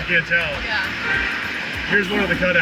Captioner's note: car horn